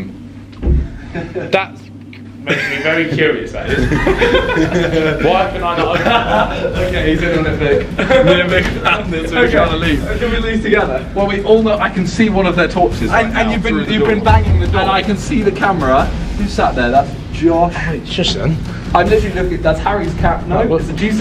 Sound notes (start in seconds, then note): 3.6 laughing